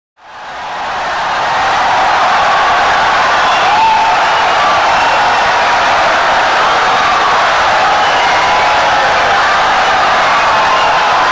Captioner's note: wild applause and cheering for 17 seconds